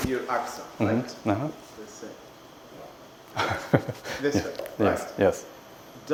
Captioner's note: laughs